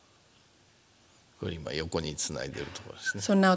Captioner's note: speaking japanese